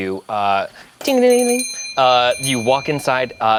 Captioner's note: bell rings